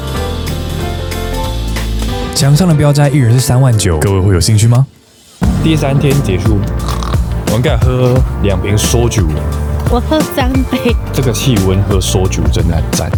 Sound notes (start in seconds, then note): 6.7 zzZzZz